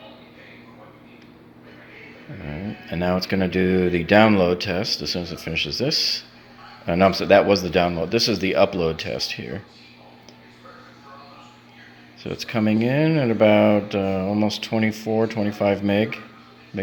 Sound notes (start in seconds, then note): 11.1 speaks faintly